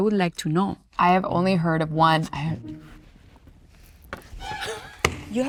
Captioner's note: whispering; ominous music